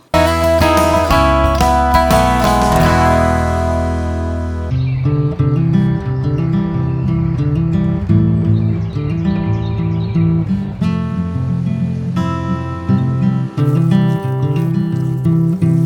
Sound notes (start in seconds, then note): 0.1 intro jingle; 4.7 birds chirping; 4.7 soft folk music